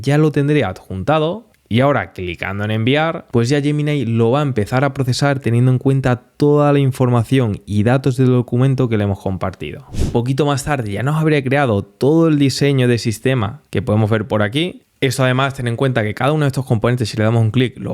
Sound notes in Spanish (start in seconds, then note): 9.9 resoplido